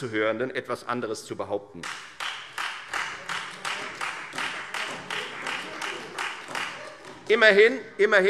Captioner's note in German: Beifall Freie Demokraten und vereinzelt SPD